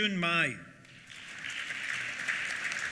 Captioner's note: applause